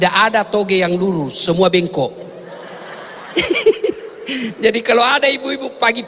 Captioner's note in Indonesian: tertawa